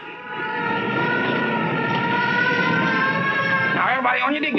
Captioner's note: sirens blaring